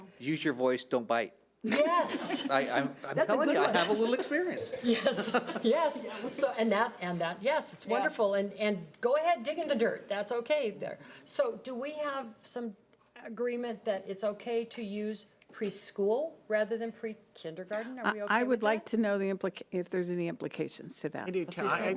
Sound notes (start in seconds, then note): 1.7 laughing; 3.2 chuckles